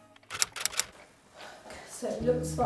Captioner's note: keyboard typing